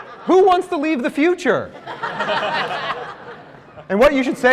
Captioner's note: laughter